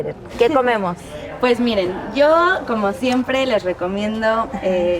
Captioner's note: speaks in Spanish